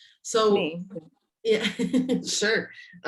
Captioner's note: laughs